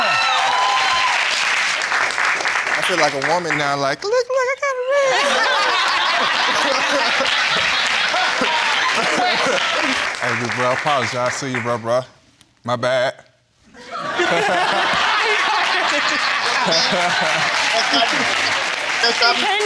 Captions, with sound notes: (AUDIENCE HOOTING) I feel like a woman now, like, "Look, look, I gotta ring!" (ALL LAUGHING) I gotta apologize to you, bruh. My bad. (ALL LAUGHING)